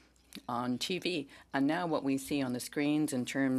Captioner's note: speaking French